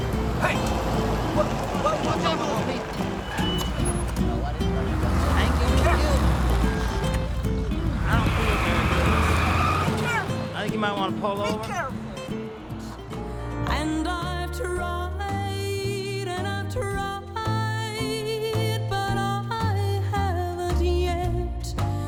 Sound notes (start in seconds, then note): 8.3 tires squeal